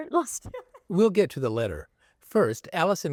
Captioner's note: laughter